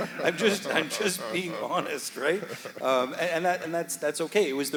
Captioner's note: audience laughing; laughing